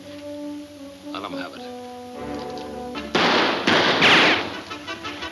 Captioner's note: guns firing